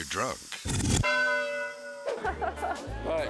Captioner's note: bell dinging; person laughing